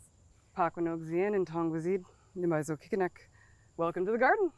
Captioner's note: speaking in indigenous language